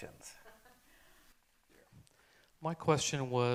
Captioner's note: chuckles